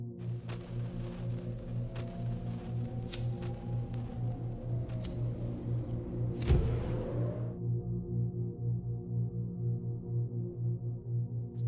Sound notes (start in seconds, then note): 3.1 lighter clicks; 7.4 light droning music